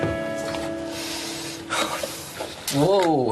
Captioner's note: breathes deeply